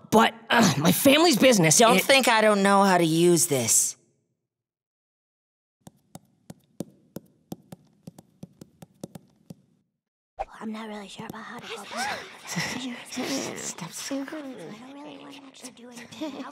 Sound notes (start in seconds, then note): 5.9 foot steps; 11.6 three whisper